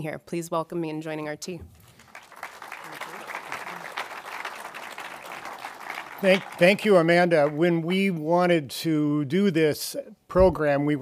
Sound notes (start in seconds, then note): 1.8 audience applauding